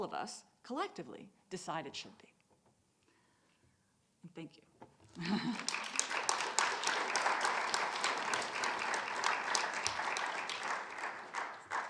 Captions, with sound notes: of us collectively decided should be. And thank you. (audience applauding)